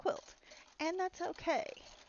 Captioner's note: clacking